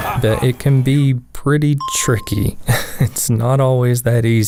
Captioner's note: haha